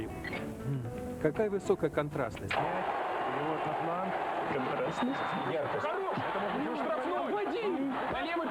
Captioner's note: football match sounds